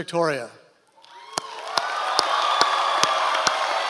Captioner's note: applauds